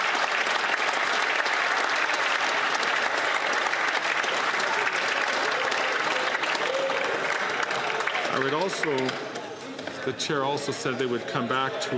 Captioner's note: some Applause